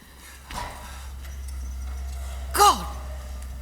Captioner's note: sound of the BULLDOZER